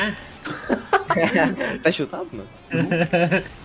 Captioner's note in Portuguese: risos